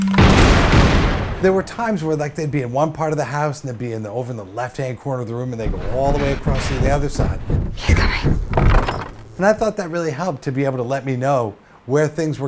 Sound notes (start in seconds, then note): 0.0 phone vibrates, gun shot; 5.6 footsteps left to right